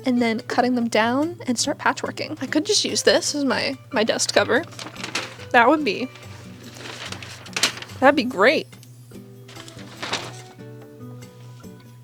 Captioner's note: paper crinkling as it falls